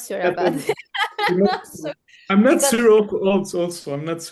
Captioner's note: laughs